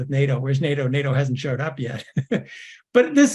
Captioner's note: laugh